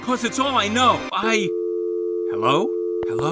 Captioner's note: dial tone